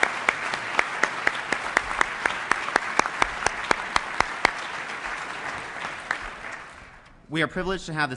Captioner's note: applause